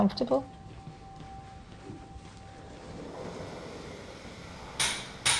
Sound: footsteps; hammering

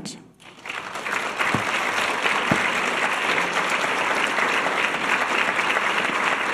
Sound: audience clapping

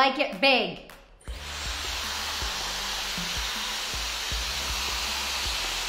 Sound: air blowing loudly

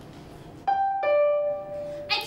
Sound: doorbell

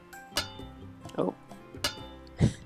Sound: shovel clanks

